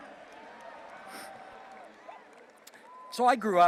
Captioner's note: attendees cheering